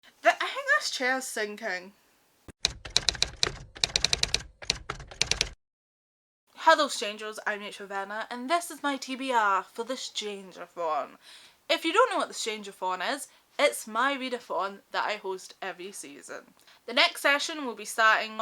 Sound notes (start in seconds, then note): 2.6 typewriter Typing